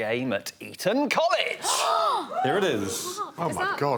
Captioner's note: Rosie gasps